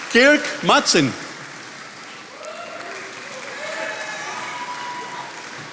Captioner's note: attendees applauding